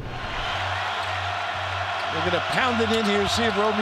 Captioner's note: crowd cheering